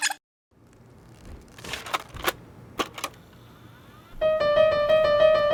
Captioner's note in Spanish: cinta rebobinándose; cinta de cassette entrando a máquina